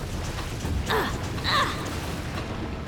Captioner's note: grunting